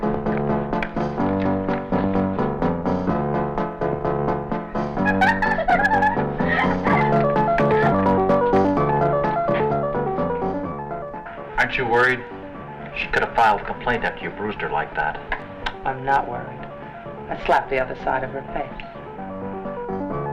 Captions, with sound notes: (both laughing) Aren't you worried? She'd could've filed a complaint after you bruised her like that. - I'm not worried. I slapped the other side of her face.